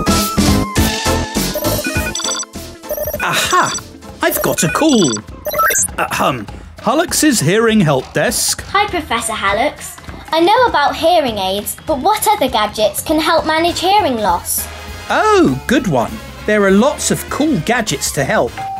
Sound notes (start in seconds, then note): 1.5 phone ringing